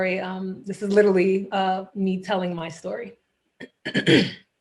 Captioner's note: clears throat